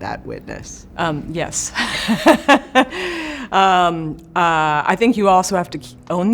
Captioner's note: laughs